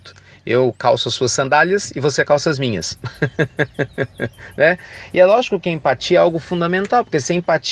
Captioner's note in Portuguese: Risos